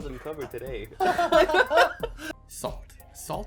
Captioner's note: laughing